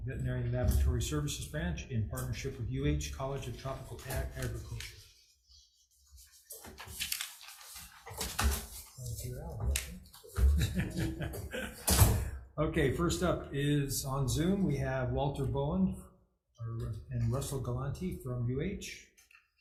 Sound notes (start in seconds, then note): 6.0 paper rustling loudly; 9.0 murmurs faintly; 10.4 laughs